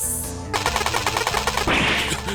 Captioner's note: ray gun “fires”